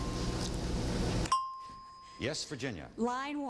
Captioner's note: ding